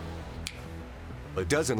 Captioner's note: snapping his fingers